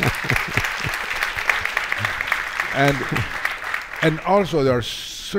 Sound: all laughing; audience clapping

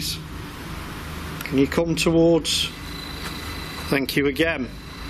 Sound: machine buzzing

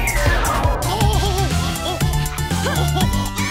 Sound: giggling

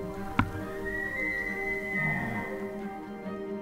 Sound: elk bugling

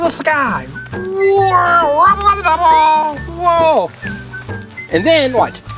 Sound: whirling

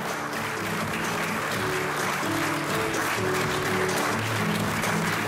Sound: audience applause

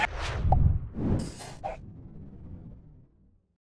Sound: logo whooshing

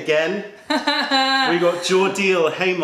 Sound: laughter

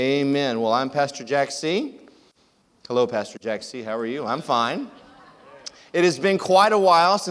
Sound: audience laughs

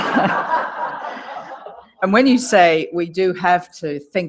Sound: laugh

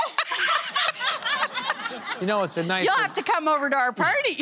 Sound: laughter

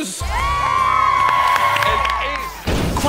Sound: all cheering

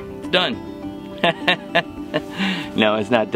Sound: laughs

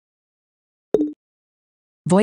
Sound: activation tone

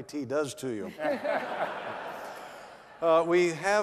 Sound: laughter

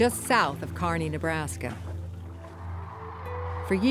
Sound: crane song

